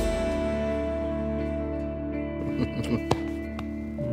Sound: warm laughter

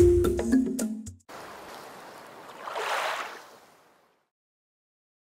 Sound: ocean sounds

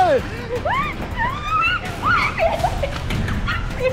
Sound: screams; screaming continues

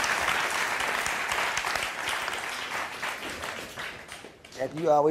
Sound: audience cheers

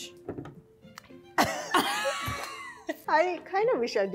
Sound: both laughing

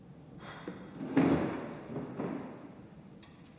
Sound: chair scrapes floor

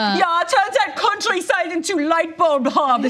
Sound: imitates German accent

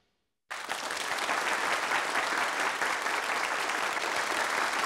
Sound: applause

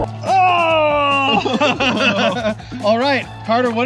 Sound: laughter

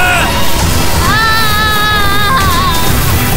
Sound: Shana in pain

